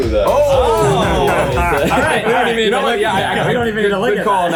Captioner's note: everyone shocked and laughing in the background